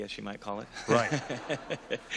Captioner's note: laughter